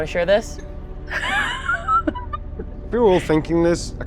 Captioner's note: laughs